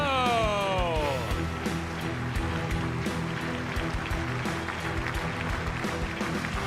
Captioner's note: dramatic music; audience applauds